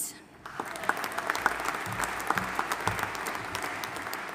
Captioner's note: audience applauding